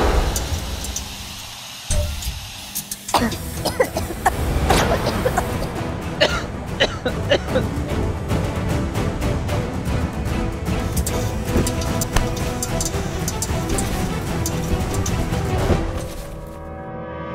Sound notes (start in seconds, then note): 2.9 coughing; 14.3 tense music